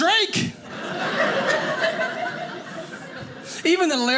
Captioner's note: audience laughing